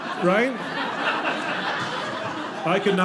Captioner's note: audience laughing